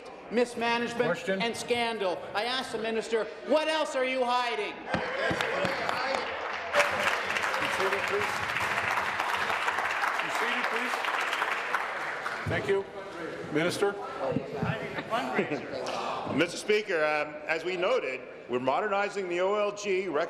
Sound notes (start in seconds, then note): 9.5 applause